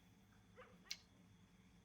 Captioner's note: dog barking